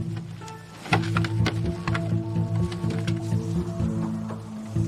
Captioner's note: plastic rattling